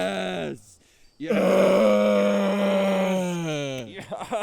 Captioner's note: grunting